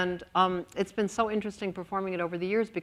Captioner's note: none